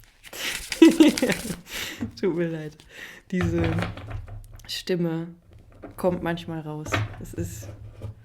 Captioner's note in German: gelächter